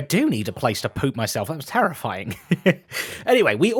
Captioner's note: laughs